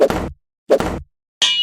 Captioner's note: slam; ding